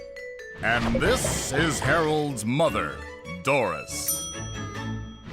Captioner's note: banging sounds